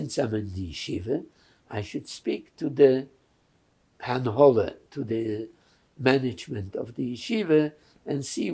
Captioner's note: yiddish